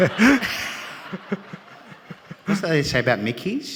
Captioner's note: all laughing